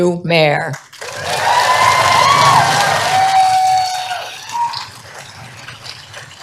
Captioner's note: applause